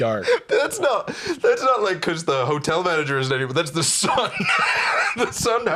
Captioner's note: laughs